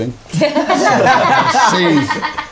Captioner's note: laughing